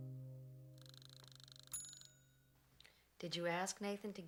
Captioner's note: timer dings